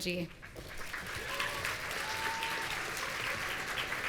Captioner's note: audience cheering